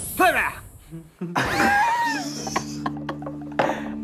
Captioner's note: laughing